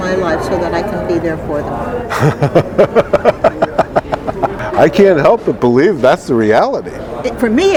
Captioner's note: laughing